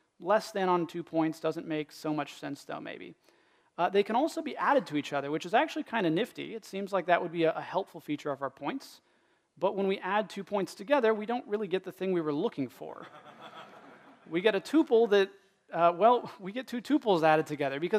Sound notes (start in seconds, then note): 13.0 laughter